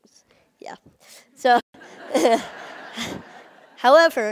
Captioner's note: Cười